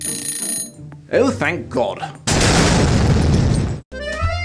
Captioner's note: timer dings